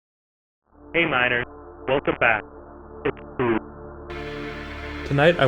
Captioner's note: very compressed audio